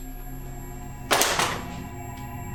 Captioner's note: spatula hitting oven